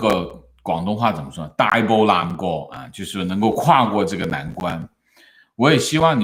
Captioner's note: 粤语